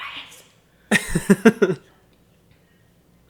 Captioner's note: laughs